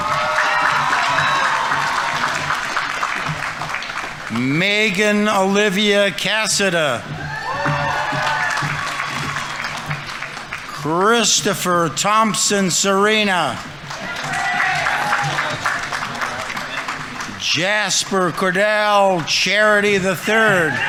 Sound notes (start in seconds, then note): 0.2 audience applauding; 0.2 audience members cheering; 7.2 audience applauding; 7.2 audience members cheering; 14.1 audience applauding; 14.1 audience members cheering